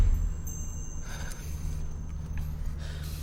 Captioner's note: sighs